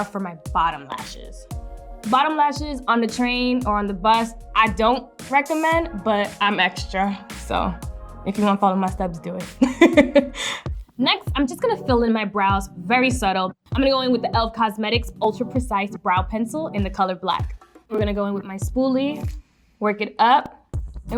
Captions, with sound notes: for my bottom lashes. Bottom lashes on the train or on the bus, I don't recommend, but I'm extra, so if you wanna follow my steps do it (laughs). Next, I'm just gonna fill in my brows very subtle. I'm gonna go in with the e.l.f. Cosmetics Ultra Precise Brow Pencil in the color black. We're gonna go in with my spoolie, work it up.